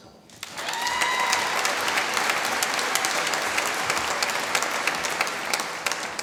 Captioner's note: applause